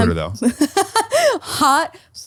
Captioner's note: laughing